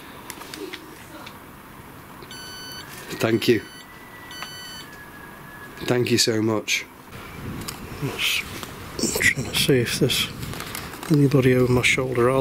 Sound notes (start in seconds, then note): 2.2 sensor beeps; 2.5 whistles in background